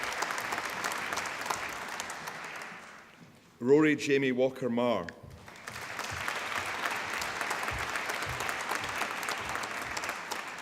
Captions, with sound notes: Rhuaridh Jamie Walker Marr. (APPLAUSE)